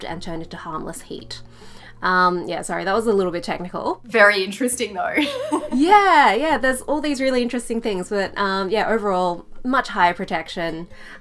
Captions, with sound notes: and turn it to harmless heat. Yeah, sorry. That was a little bit technical. - Very interesting though. (chuckles) - Yeah, yeah. There's all these really interesting things, but, yeah, overall much higher protection.